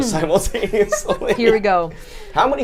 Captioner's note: group giggles